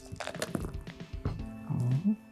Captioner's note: dice rolling; dice rattling